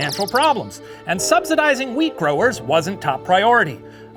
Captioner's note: birds chirping